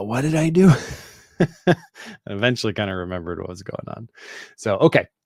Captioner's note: chuckles